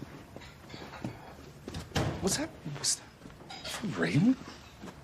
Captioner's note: door closes